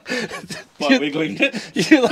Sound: laughing

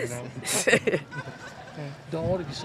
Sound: Dawn chuckles

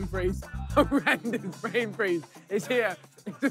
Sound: laughing

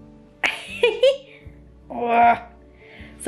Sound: laughing

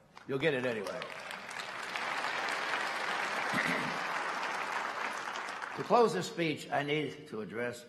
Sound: applause

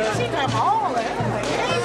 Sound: applause

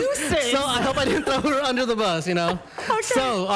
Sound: laughter

